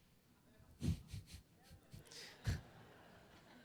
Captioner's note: laughs